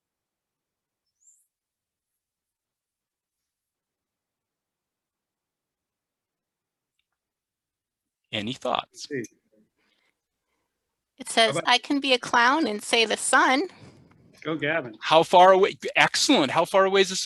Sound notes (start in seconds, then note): 1.6 pause